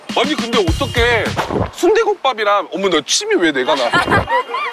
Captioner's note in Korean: 꿀꺽 +1